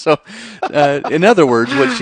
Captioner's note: laughs